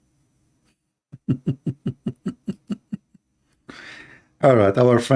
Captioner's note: Ketawa